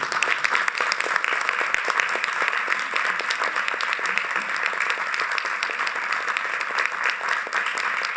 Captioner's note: applause